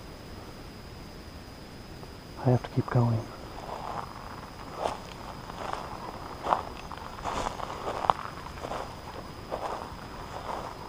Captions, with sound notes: I have to keep going. (footsteps thudding)